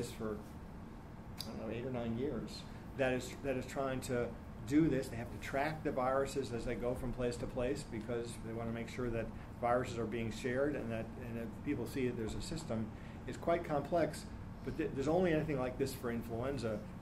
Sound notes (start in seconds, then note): none